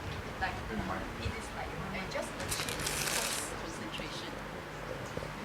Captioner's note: woman speaks off mic